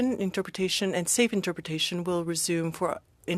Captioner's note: speaking french